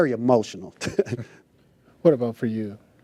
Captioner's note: laughs